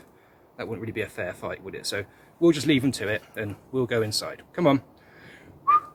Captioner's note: whistling